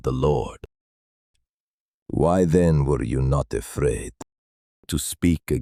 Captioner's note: thoughtful